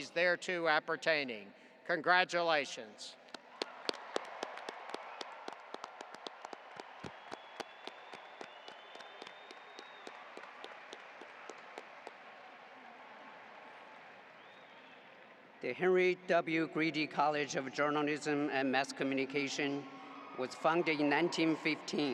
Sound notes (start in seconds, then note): 3.3 audience applauding